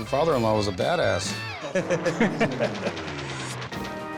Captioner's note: both laugh